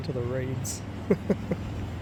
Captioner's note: dumb Laugh